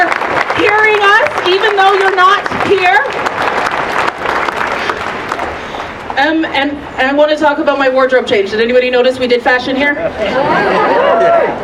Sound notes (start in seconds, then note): 3.4 applause